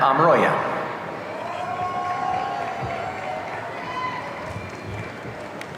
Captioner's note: audience cheering